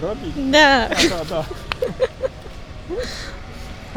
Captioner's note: laughs